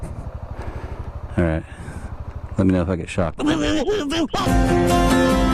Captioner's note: electrocuted sound